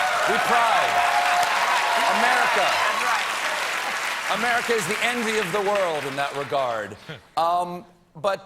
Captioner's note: applause